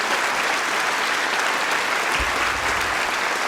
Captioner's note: cheering & Applause